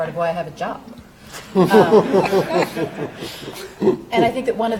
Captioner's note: audience and panel laughing